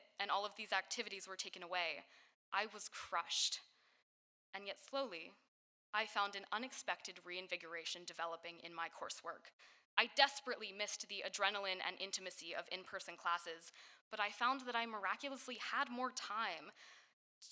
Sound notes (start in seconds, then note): none